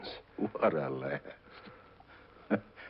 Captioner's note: chuckles